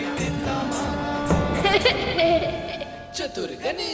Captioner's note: laughs